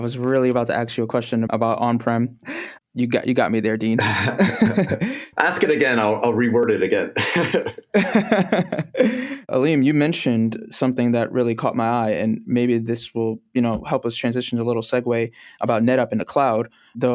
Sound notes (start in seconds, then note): 4.0 laughter; 7.2 laughter